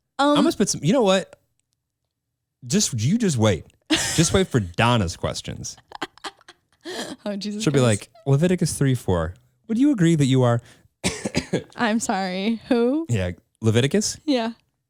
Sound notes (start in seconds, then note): 5.6 laughs; 11.0 coughs